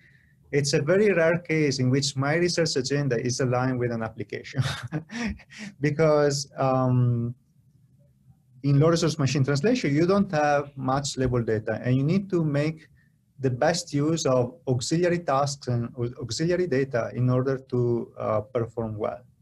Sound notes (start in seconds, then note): 4.5 laughter